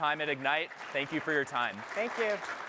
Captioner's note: applause